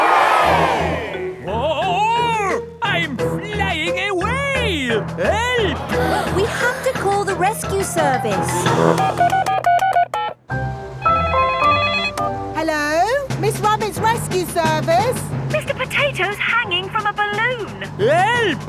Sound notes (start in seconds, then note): 0.0 crowd cheers; 9.4 beeping; 11.3 phone ringing